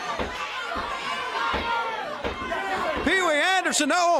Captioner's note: crowd chatter